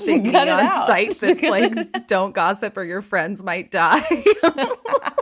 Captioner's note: laughing